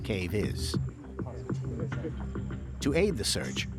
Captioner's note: talking in background